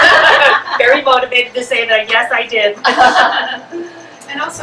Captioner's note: laughter